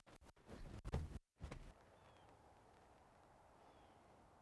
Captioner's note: feet thudding